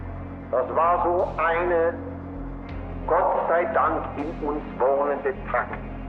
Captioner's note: Himmler continues speaking German